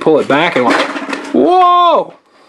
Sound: car runs on table

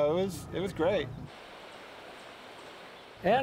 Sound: rushing water

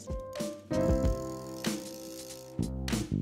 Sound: drill whirls

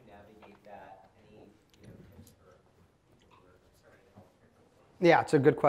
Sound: speaking away from mic

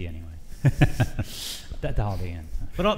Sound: laughs

